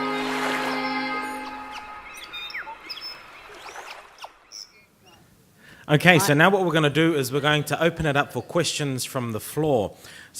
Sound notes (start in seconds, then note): 1.8 tweeting